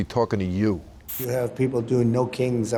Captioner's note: screen hissing